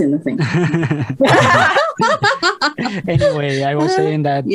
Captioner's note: risas